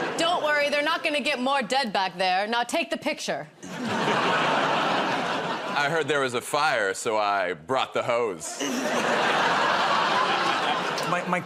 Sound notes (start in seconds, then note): 3.6 laughter; 8.5 laughter